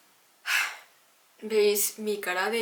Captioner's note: sigh